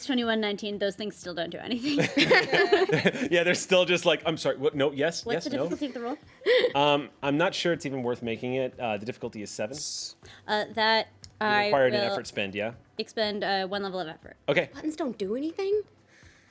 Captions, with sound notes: - It's 2119, those things still don't do anything. (everyone laughs) - Yeah, they're still just like, I'm sorry, what, no, yes. - What's the difficulty of the roll? - I'm not sure it's even worth making it. The difficulty is seven. You require an effort spend, yeah. - Expend one level of effort. - Okay. - Buttons don't do anything?